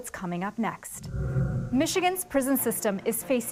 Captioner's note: screen whooshing